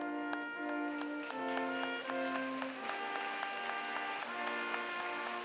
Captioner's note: applause